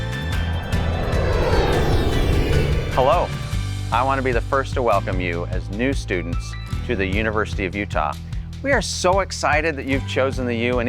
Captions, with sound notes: (airplane soaring) - Hello. I wanna be the first to welcome you as new students to the University of Utah. We are so excited that you've chosen the U,